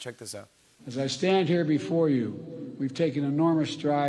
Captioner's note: echoing